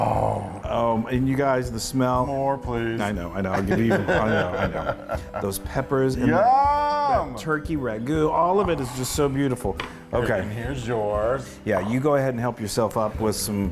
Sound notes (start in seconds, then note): 3.5 laugh